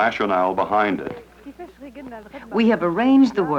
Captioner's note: speaking Arabic